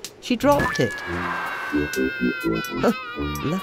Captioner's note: aghhhh